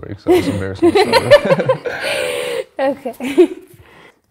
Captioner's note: laughs